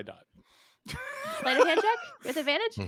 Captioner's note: laughs